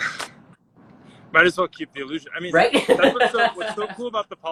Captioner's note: laughs